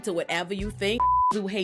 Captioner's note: beep